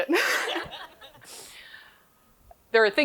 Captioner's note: laughs